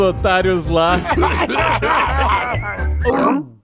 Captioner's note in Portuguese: Zumbis rindo